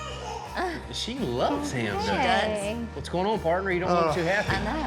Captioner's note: giggling